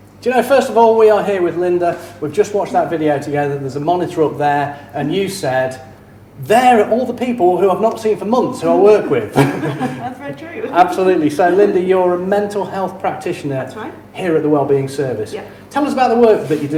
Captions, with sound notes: - D'you know, first of all, we are here with Lynda. We've just watched that video together there's a monitor up there and you said, "They're all the people who I've not seen for months, who I work with" (chuckles) - That's so true. - Absolutely, so Lynda, you're a mental health practitioner - That's right. - Here at the wellbeing service. - Yeah. - Tell us about the work that you do